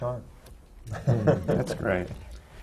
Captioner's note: laughter